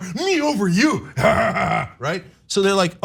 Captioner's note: laugh